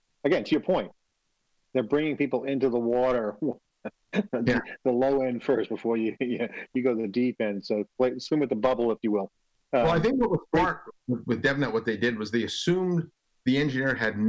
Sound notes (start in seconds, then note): 3.6 chuckles